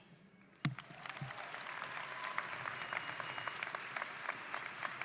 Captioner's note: audience applauding